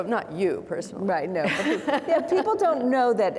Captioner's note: laughs